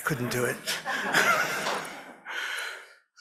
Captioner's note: laughter